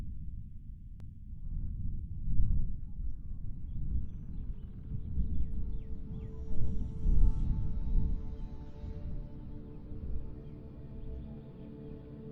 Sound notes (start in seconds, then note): 5.0 faint sound of birds chirping